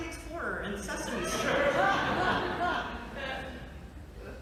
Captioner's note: laughter